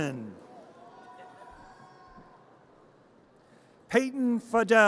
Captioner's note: audience cheers